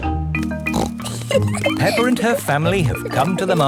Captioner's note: snorts and giggles